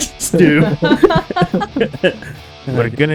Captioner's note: laughter